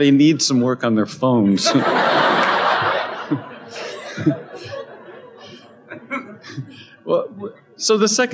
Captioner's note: laughter